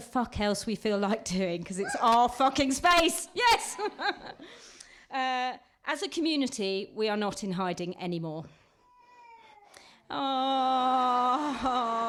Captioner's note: baby wailing